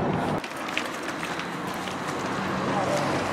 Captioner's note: running and rain